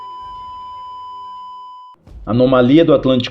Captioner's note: beep